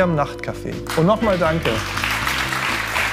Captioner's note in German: Applaus